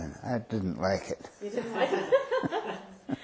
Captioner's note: laughing